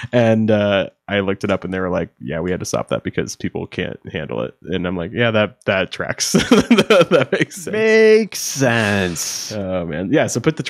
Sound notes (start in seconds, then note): 6.4 laughing